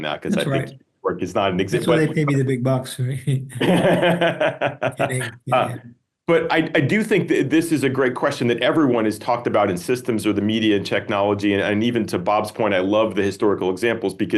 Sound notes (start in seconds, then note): 3.4 laughing